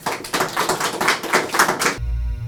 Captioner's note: applause